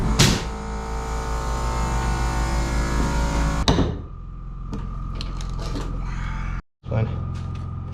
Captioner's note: motor whirring